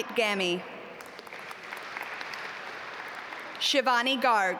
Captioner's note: audience applaud